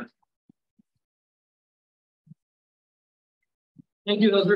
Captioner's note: silence